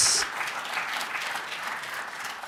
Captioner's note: applause